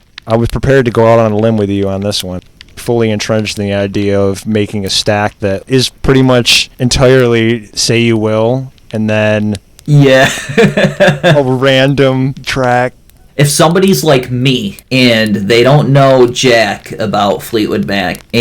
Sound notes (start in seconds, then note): 10.0 laughs